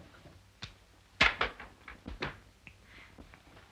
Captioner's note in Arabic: صوت قعقعة الكائن